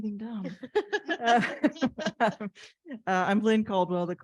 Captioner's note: all laughs